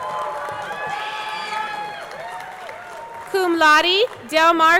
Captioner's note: audience cheering; audience clapping